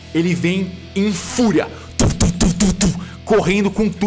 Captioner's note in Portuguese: tututututu